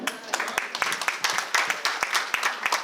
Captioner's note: audience applause